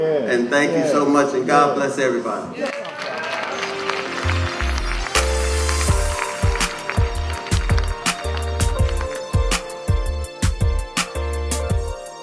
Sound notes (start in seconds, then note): 2.6 applause